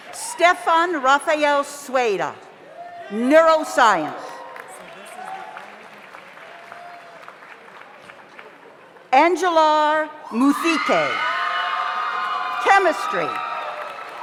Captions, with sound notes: Stefan Raphael Suela, Neural Science. (audience applauds) (audience cheers) Angelar Mufike, Chemistry. (audience cheers)